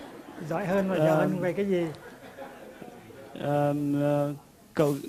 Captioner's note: audience still laughing